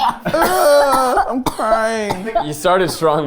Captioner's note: coughs